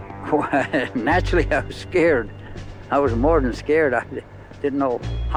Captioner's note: laughing